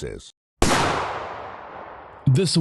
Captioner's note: gunshot